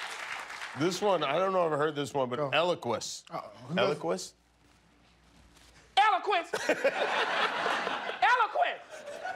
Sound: cheers and applause

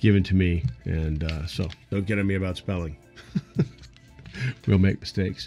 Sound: laughs

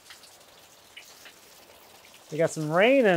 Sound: rain pattering

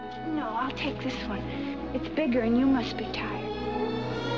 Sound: none

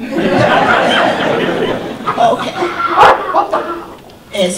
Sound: audience laughter

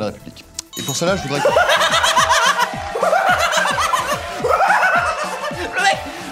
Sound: hysterical laugh

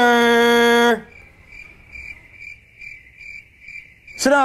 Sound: one cricket chirps

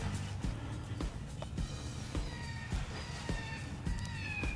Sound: predator call noises

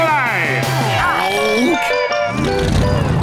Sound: groaning

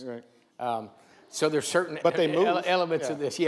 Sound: laughs

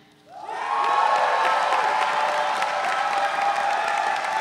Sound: audience cheering

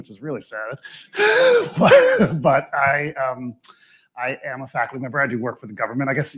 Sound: laughs

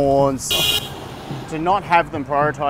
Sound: beeping horn

